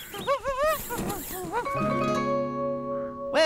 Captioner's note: imitating Warbler